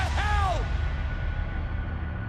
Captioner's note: crowd cheering